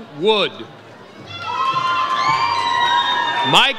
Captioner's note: audience cheers